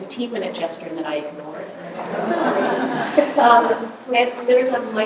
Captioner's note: audience laughing